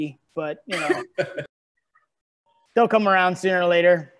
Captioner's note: laughing